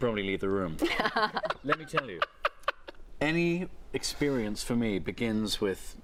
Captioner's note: laughter